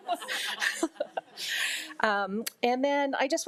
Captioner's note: crowd laughing